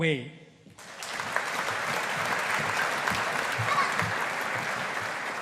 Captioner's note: audience applauding